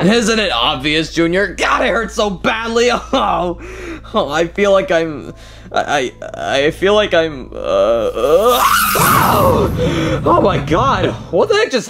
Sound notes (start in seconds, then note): 8.0 Mario screaming; 8.9 explosion booming